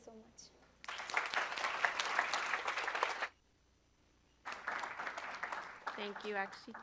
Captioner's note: applause